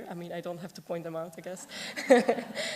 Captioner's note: laughter